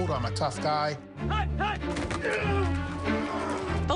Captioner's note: men grunting